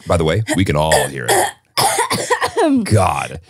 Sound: clears throat

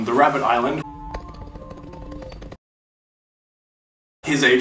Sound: keyboard keys tapping

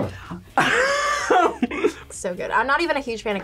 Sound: laughs

